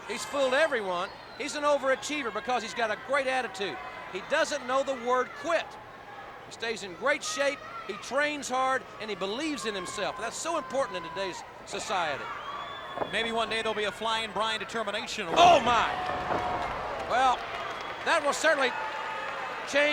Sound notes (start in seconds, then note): 12.7 footsteps plodding; 15.7 body thudding; 18.7 crowd clamoring